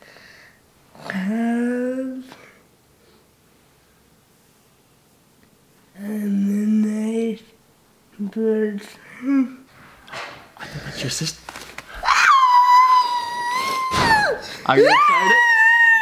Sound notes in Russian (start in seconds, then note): 10.1 дверь открывается